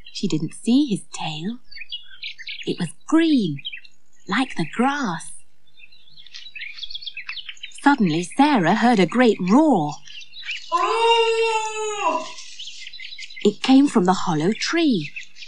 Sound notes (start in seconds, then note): 10.7 Griffle Yelps